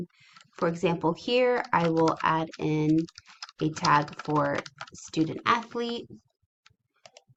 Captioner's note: typing